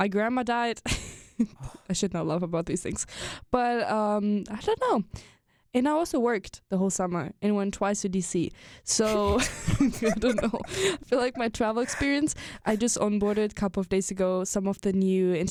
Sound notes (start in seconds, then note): 9.0 both chuckle